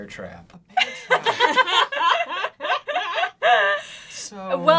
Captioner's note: laughs